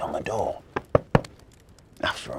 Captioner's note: knocking